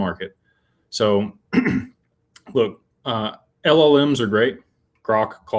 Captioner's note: clears throat